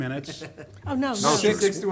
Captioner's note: man laughs